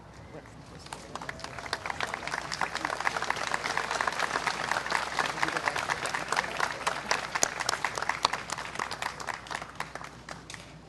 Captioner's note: applause